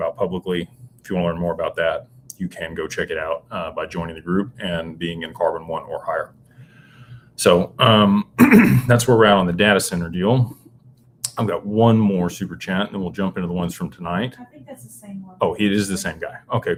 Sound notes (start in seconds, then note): 8.3 clears throat